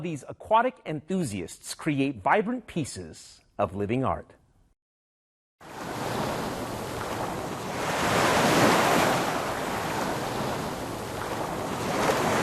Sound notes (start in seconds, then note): 5.6 waves crashing